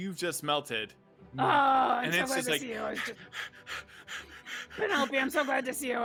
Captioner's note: panting